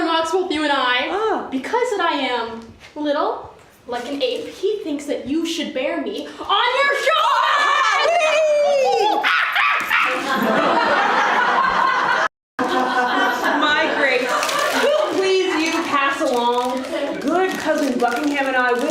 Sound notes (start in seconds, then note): 10.6 ape sounds